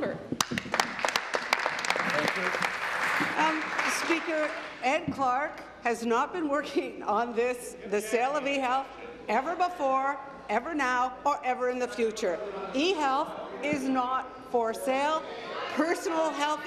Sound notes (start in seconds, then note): 3.8 applause